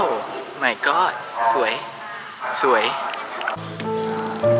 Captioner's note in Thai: ปรบมือ